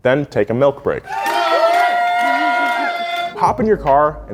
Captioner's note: people cheering